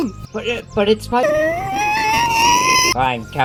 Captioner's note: intensifying Whimper